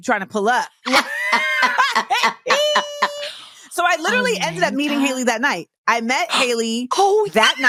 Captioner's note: laughs